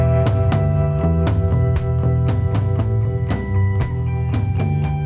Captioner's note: deep harmonic humming